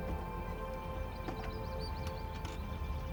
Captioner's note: birds singing; door creaks open